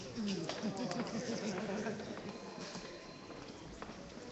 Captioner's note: laughing